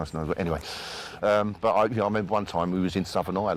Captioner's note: stammers